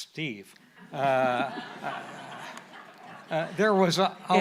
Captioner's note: audience laughing